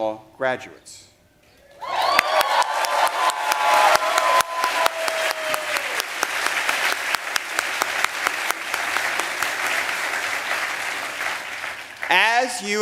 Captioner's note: cheers and applause